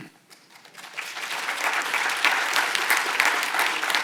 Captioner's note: audience applauds